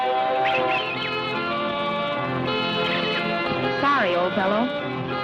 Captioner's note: monkey chittering